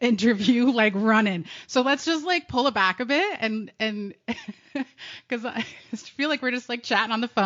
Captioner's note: both giggling; laughs